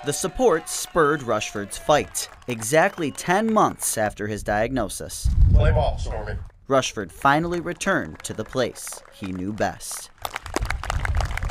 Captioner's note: applause